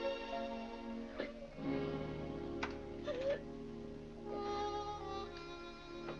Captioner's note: upbeat music; Vinnie sobbing; soft sad music